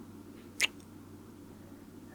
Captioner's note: kiss